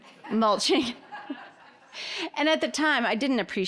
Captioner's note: all laughing